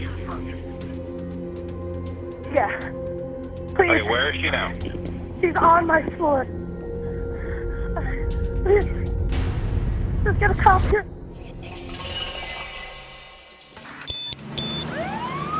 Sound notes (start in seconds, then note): 14.0 two high-pitched beeps; 14.0 siren wailing